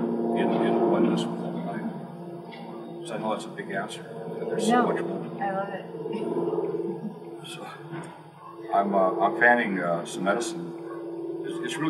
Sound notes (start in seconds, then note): none